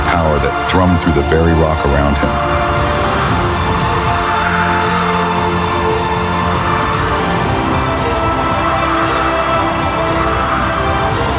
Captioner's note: voice like thunder